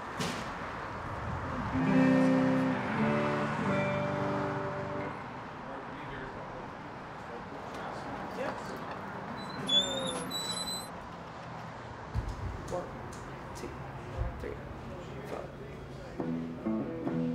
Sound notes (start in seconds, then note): 1.7 guitar strums; 7.5 door creaks